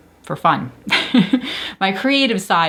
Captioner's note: chuckles